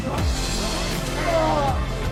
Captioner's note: groans